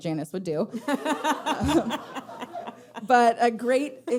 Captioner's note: audience laughing